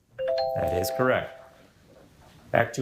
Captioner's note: bell ringing